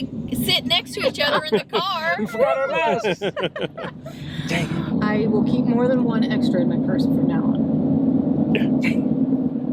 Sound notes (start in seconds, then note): 2.6 all laughing